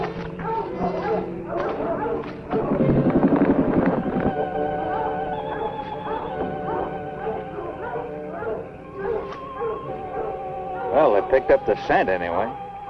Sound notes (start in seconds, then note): 2.5 creature growling; 4.6 tense music continues